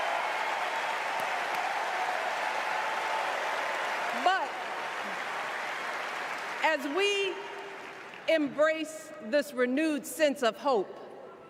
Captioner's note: cheers and applause